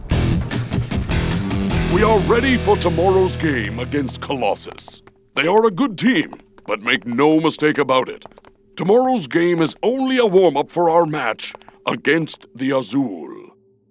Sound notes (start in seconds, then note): none